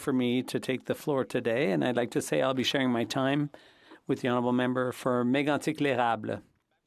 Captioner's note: speaking French